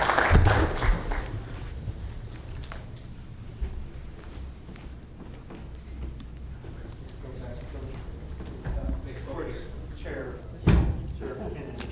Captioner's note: applauding